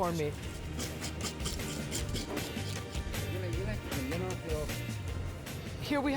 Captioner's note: scraping